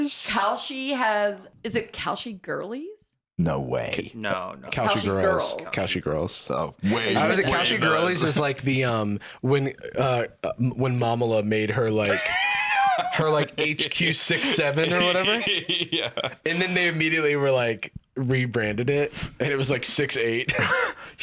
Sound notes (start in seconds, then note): 15.8 laughing